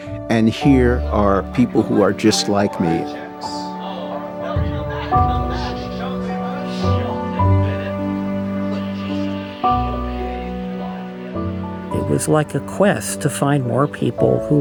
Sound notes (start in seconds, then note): 7.0 TV plays cartoon